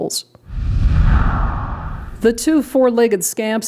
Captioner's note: swooshing